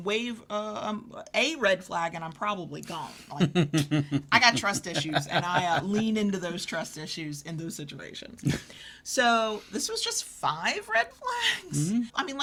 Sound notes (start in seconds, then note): 3.2 laughs